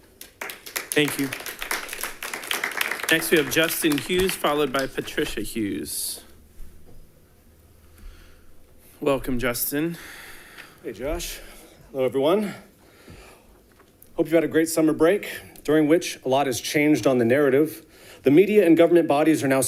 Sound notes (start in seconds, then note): 2.0 audience applauding